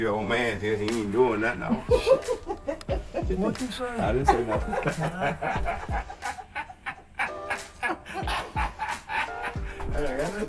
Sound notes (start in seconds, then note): 5.3 all laughing